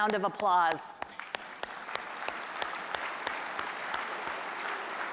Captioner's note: applause